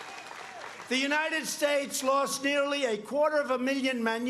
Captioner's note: cheers and applause